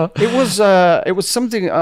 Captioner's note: laughs